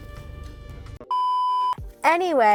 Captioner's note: beeping